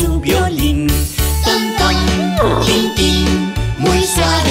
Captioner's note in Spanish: Relincho